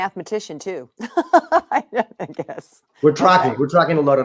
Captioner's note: chuckles